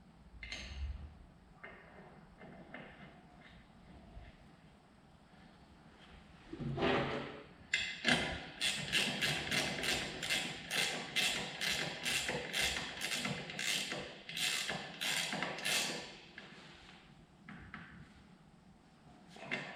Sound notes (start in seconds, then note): 8.5 ratchet creaking